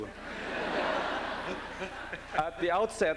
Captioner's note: laughter